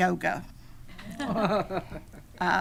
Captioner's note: attendees laughing